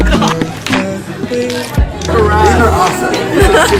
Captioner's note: indistinct Crowd Chatter